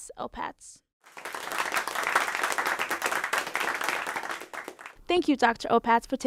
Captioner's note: clapping